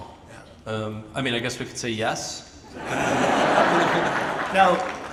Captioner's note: audience laughs